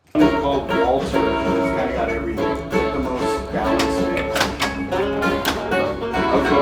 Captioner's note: guitar music; people chattering